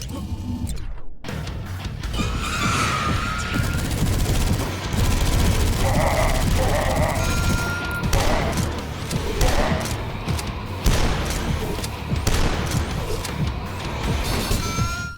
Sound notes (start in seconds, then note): 3.6 loud gunfire and enemy noises